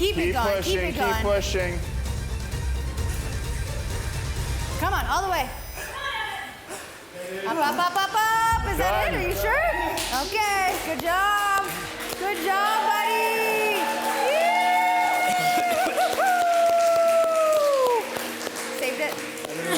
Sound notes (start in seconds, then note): 13.9 participants cheering